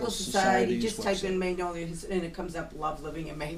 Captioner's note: voiceover